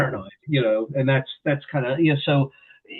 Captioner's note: laughs